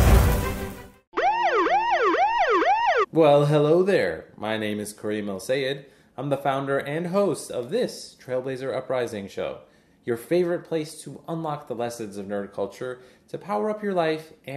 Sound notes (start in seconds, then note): 1.1 siren wailing